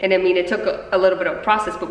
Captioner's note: none